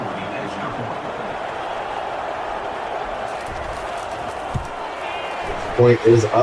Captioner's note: crowd Noises